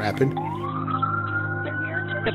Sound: police sirens

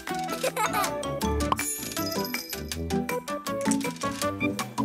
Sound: giggles; pops

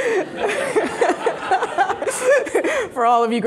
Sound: laughing

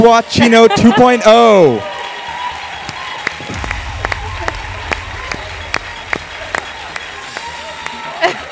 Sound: applause; laugh

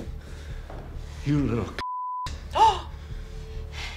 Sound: gasps

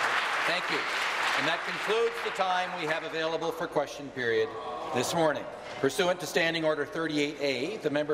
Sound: applause

